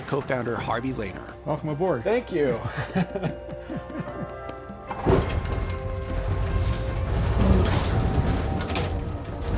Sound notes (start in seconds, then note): 2.6 chuckles